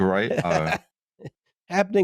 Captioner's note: laughs